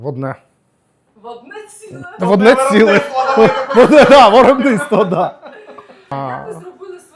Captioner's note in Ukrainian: сміх